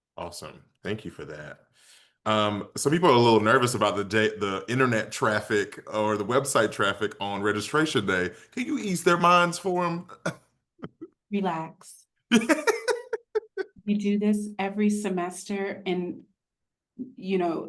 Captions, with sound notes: - Awesome. Thank you for that. Some people are a little nervous about the internet traffic or the website traffic on registration day. Can you ease their minds for them? [chuckles] - Relax. - [laughs] - We do this every semester, and, you know,